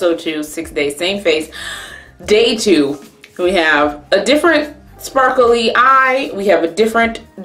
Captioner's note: inhales